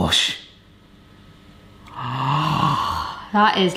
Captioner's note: gasping